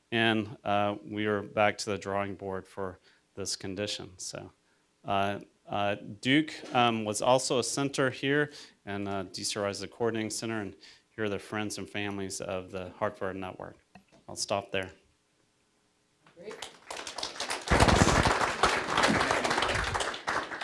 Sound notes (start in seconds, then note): 16.5 audience applause